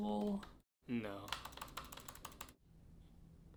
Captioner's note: keyboard clicking